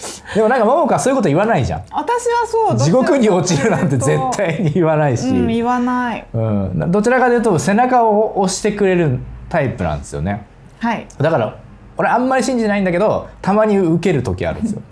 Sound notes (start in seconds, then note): 5.6 laughs